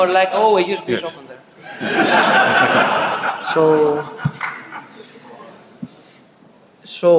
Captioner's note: laughing